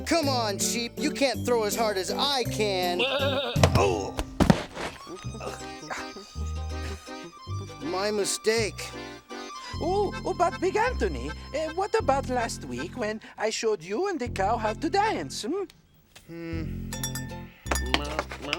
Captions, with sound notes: - C'mon Sheep. You can't throw as hard as I can. (sheep baaing) (Big Anthony grunts) My mistake. - Ooh, but Big Anthony, what about last week, when I showed you and the cow how to dance?